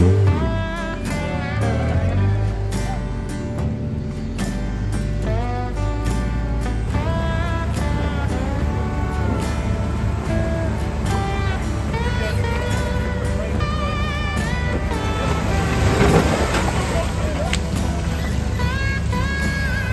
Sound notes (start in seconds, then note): 0.9 cheering